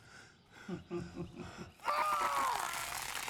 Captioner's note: Kear chuckles; screams; crackling